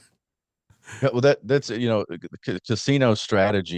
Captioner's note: laughs